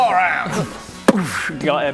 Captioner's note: boof!